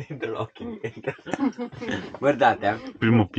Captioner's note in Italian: Risate